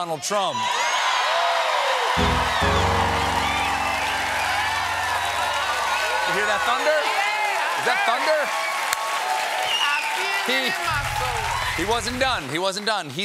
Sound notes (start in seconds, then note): 2.2 piano riff; 2.2 cheers and applause